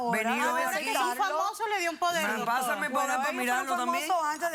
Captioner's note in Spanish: Hablan al unísono